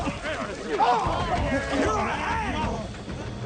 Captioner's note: shouting